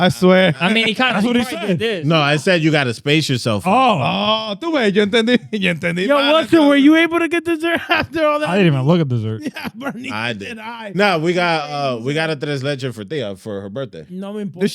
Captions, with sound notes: I swear. I mean, he kinda-- No, I said you gotta space yourself out. (Speaking In Foreign Language) Were you able to get dessert after all that? I didn't even look at dessert. Yeah, Bernie. I did. No, we got a tres leches for her birthday. You know what I mean, boy?